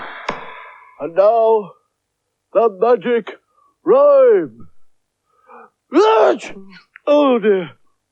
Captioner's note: claps; sneezes Loudly